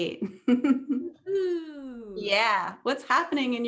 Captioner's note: chuckles